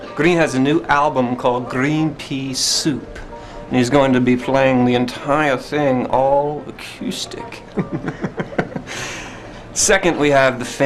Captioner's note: laughing